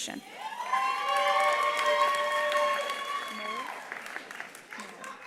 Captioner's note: attendees cheering; attendees applauding